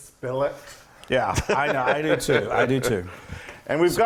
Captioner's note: laugh